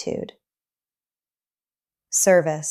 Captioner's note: pause